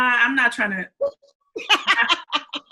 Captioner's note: laughs